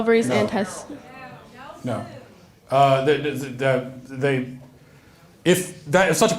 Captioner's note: audience chattering